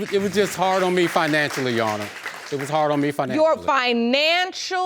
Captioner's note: audience applauding